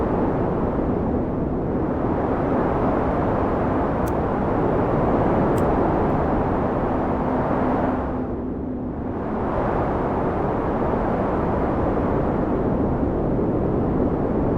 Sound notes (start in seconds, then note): 3.4 lighter flicking; 10.6 wind whistling continues